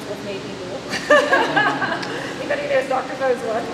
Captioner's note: laughter